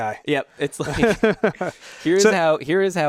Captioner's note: laughs